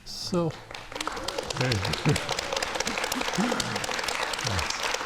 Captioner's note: audience applauding